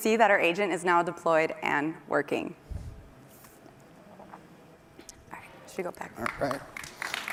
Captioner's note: applause